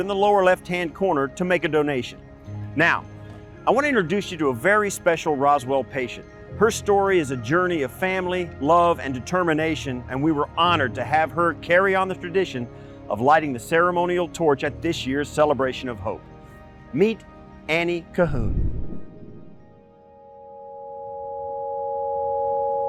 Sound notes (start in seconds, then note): 18.3 graphics whooshing; 19.1 light music